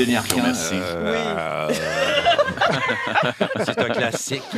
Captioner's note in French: rires